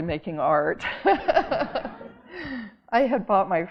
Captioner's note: audience laughing